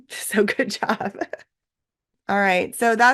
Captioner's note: laughs